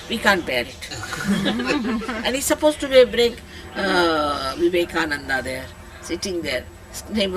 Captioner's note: laughter